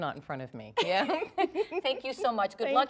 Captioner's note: laughter